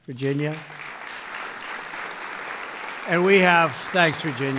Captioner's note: applause